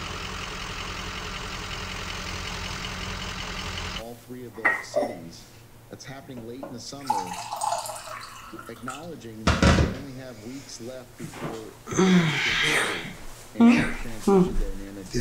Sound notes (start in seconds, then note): 6.9 water trickling